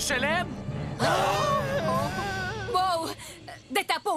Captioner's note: gasps